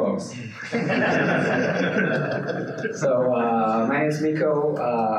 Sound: participants laughing

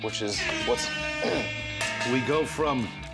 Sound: buzzer sounds; cowbell clangs

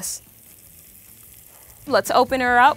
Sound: grill sizzling

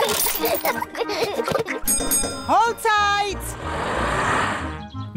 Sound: children giggling; bell rings

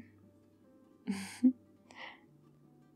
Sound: laughs

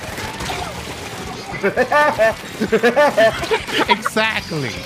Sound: mimicking Woody Woodpecker's laughter; chuckles

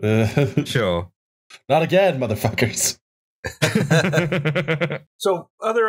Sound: laughter

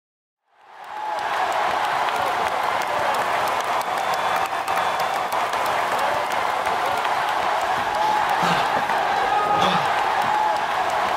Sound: crowd cheering

